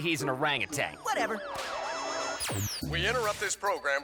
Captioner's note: static hisses